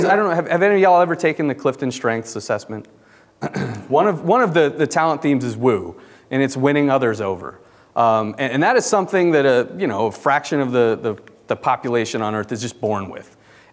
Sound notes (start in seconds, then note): 3.4 clears throat